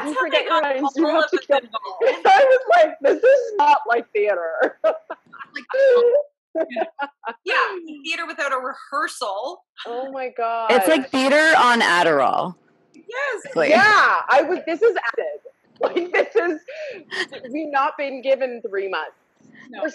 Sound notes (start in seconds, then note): 6.5 laughs